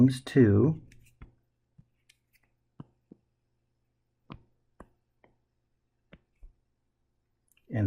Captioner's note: tapping Sounds